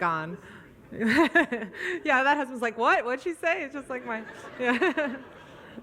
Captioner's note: audience laughs; laughs